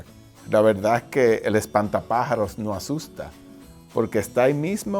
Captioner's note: speaking in foreign language